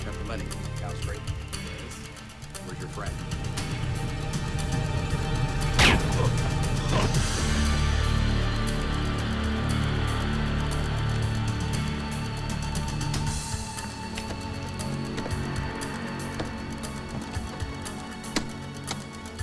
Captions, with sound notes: - You have the money? - Yeah, that was great. - Where's your friend? (gun fires) (slow music continues)